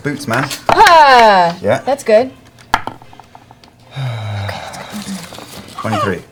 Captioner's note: whispers